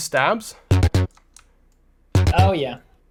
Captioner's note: bass sound effects